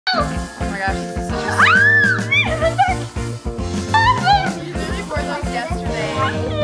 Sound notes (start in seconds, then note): 0.1 squeaks; 1.5 screams